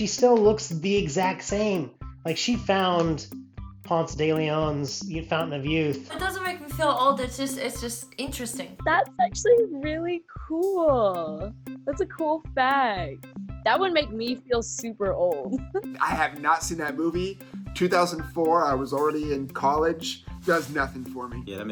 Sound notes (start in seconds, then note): 15.5 laughs